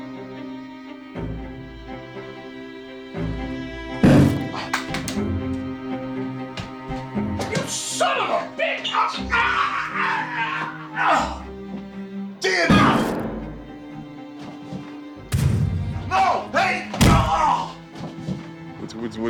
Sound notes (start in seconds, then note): 0.3 dramatic music; 3.9 gun firing; 9.4 choking; 15.3 gun firing; 16.7 grunting